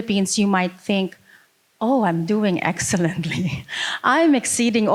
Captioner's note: laughing